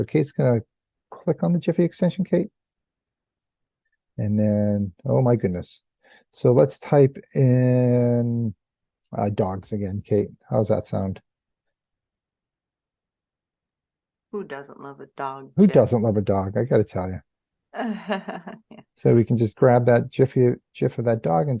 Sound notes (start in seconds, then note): 19.1 laughs